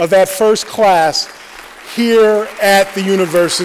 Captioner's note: applause